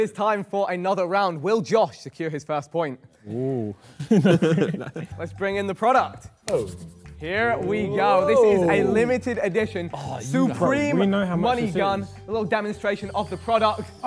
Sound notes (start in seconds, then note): 3.8 Josh laughs